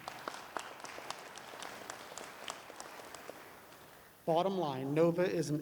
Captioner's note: applause